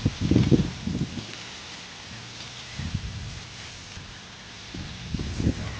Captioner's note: sizzling